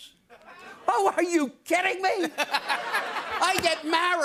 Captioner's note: laughter